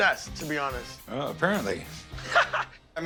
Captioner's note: laughs